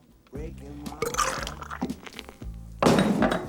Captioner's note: belches